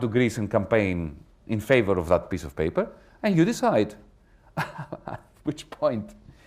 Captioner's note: chuckles